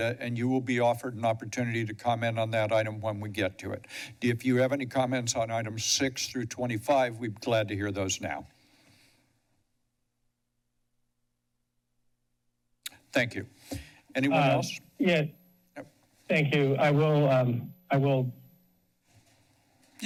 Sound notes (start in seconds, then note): 9.4 silence; 12.8 smacks lips